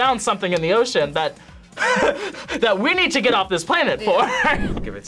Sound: laughs

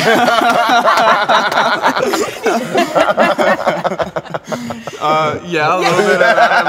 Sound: laughter

